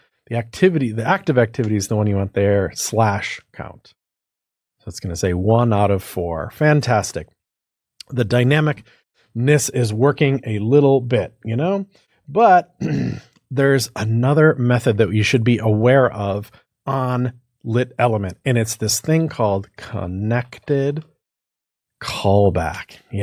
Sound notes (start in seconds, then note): 12.8 cough